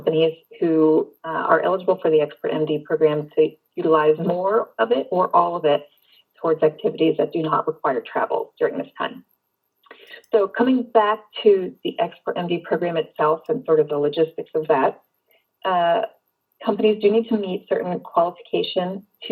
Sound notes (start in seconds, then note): none